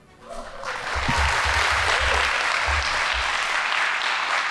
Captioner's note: audience applauding